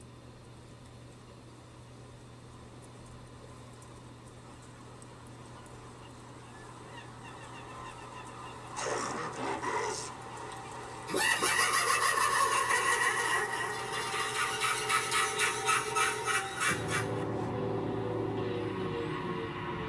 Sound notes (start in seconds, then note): 8.8 spooky voice speaking; 10.5 laughing spookily; 17.0 spooky music